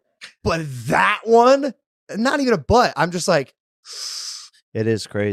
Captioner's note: sucking